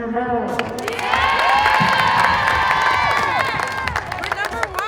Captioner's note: cheering and clapping